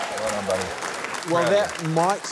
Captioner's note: cheering, applause